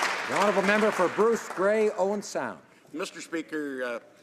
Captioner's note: applause